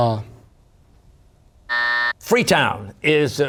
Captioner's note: buzzer